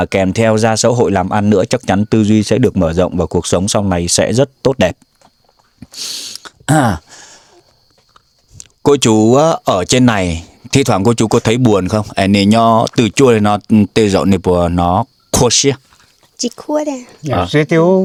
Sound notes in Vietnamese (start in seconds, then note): 5.6 khịt mũi; 6.6 hắng giọng